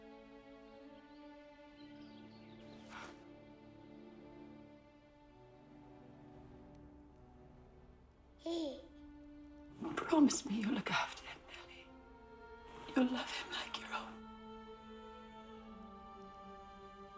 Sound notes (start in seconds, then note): 0.1 soft music; 8.4 baby gurgling